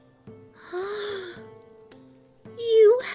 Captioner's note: gaaaaaaaasp